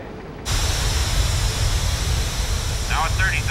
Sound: rocket engine roaring

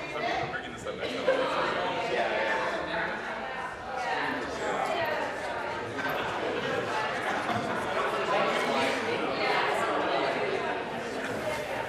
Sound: chatter

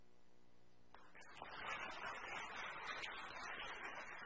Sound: applause

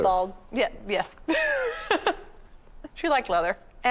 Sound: laughing

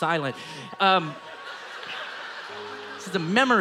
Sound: audience laughing

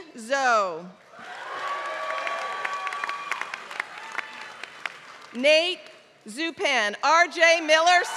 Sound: applause

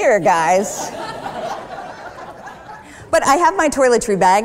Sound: laughter

